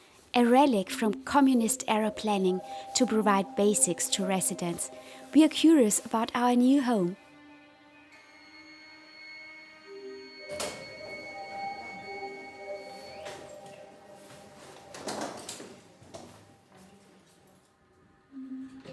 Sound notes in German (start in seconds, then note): 8.2 Leises Piepen des Aufzugs